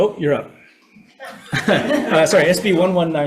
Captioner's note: audience laughing